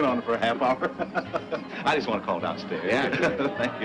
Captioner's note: man laughs